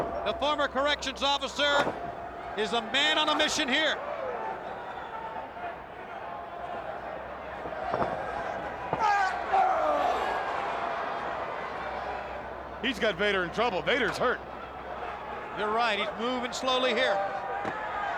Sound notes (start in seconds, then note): 9.8 crowd cheering; 9.8 fighters grunting